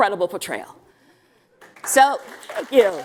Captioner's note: applause